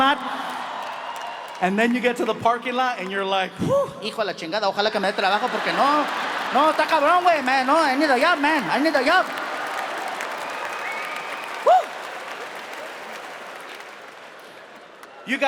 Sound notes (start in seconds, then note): 0.0 audience cheering; 3.9 speaking in foreign language; 9.4 audience applauding; 9.4 audience cheering; 12.5 audience applauding